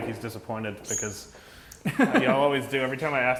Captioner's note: laughs